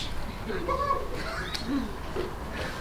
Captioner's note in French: les sportifs rigolent